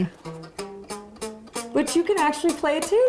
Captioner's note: plucking